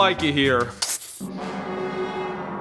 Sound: lighting of fuse

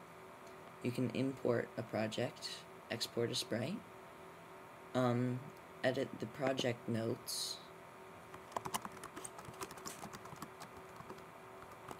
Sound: typing sounds

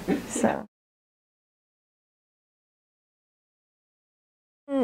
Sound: background chuckle; silence

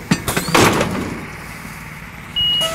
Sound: loud banging; beep

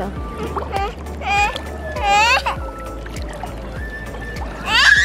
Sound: whining

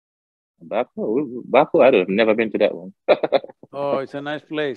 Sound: laughs

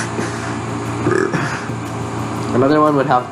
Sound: burps with Drama

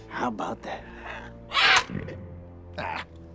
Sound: squawks

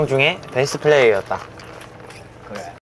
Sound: slurp

